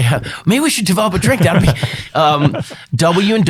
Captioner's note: laughs